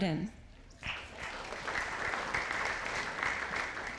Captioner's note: audience applauding